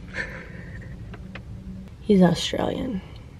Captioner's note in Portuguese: risos